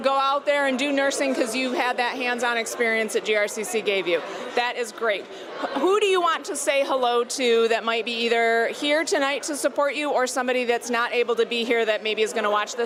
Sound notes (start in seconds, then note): none